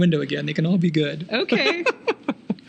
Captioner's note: laughing